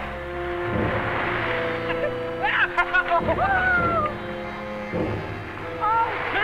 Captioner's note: Jack cheering; Pete laughing